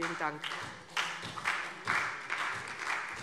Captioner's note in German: Beifall SPD